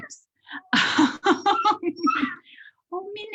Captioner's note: Minna whimpering; laughing